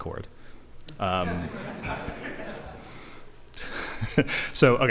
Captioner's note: laughter